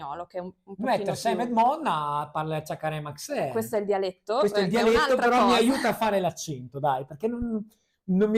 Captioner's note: speaks dialect